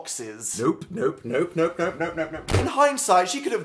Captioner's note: fridge door slams